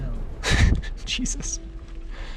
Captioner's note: laughs